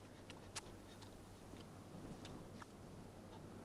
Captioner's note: Hundra chewing